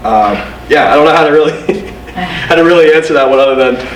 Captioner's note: laughs